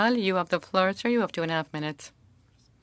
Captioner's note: speaking French